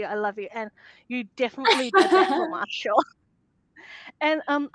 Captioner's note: laughing